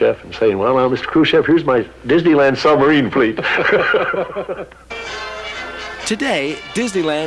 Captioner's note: laughs